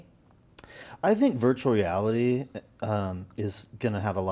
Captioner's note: none